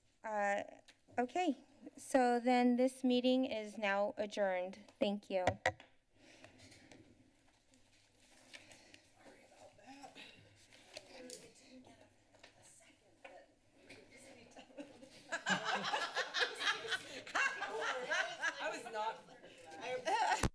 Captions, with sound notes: Uh, okay. So then, this meeting is now adjourned. Thank you. [background conversations] [laughs]